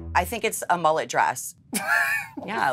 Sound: laughs

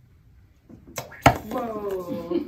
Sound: popping

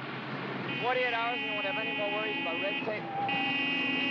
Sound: jeep horn honks

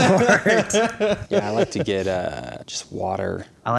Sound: laughing

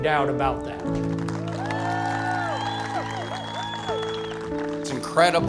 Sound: applause

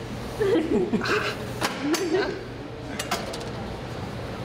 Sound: laughing

